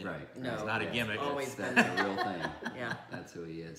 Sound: laughing

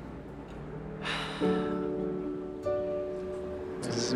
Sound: sighs

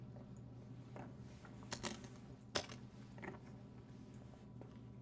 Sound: locks clicking

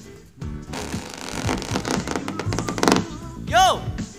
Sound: creaking

